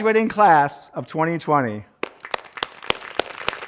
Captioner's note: applause